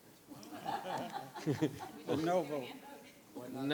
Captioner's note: board members laughing